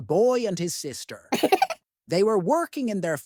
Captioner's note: giggle